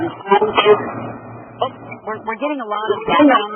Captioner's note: audio feedback